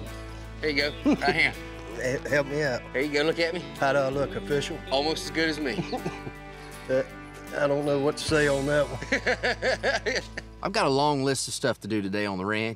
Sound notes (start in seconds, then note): 5.6 chuckling; 8.8 laughing